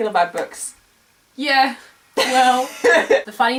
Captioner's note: laugh